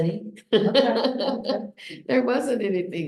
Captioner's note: laughs